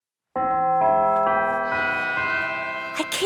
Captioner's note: bell chimes